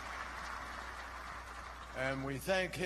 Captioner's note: applause